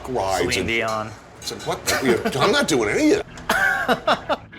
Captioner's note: laughs